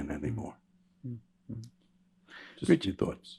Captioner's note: murmurs